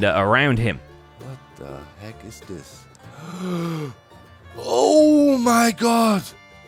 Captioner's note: gasps